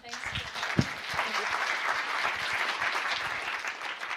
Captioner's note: applause